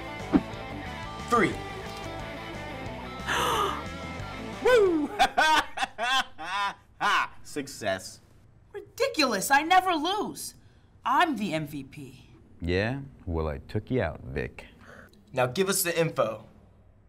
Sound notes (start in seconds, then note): 3.2 gasps; 4.6 laughs